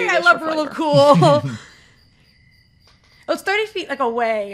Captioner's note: chuckles